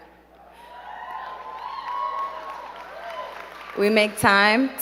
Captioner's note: crowd cheering and clapping